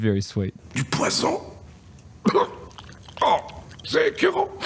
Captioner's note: speaking in French